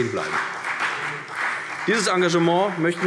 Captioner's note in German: Vereinzelter Beifall CDU